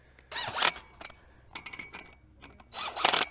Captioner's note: drill buzzes; drill buzzes